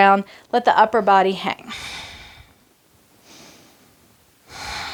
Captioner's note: breaths heavily